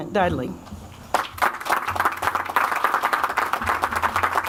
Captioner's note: audience applauds